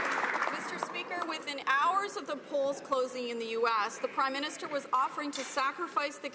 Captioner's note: some Applause